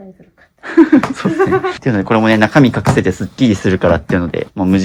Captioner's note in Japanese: 笑い